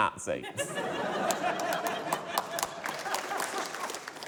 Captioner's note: laughter, applause